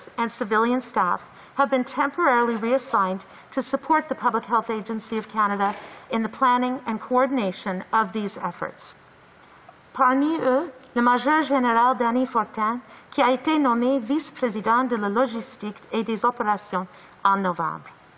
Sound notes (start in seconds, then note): 12.9 speaking in French